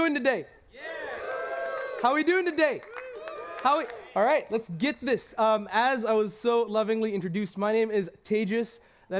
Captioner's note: cheers